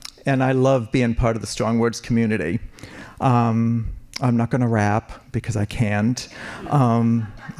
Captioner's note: laughing